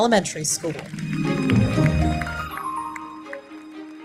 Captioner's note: audience applauding; bright music continues